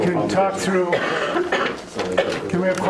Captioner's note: coughing